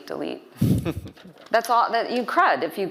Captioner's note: laughing